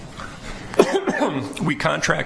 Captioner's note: coughs